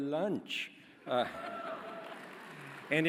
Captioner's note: laughter